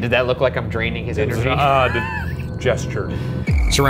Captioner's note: chuckling